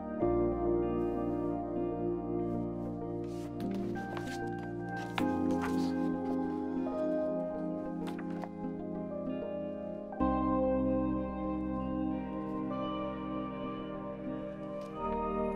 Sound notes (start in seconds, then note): 3.2 book rustling; 10.2 expressive electronic music